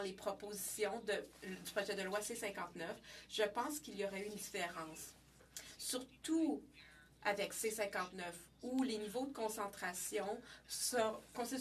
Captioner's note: speaking French